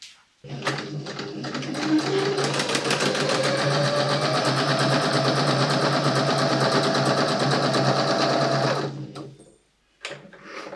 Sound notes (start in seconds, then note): 0.4 sewing machine whirring and clacking slightly